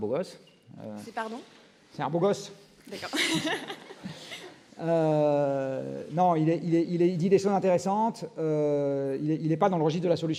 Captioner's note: repeats and laughs